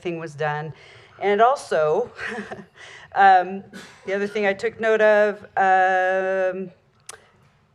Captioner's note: giggle